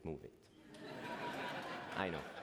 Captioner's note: laughter